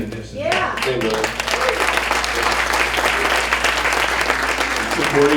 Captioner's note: crowd clapping